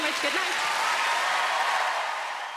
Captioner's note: audience applauds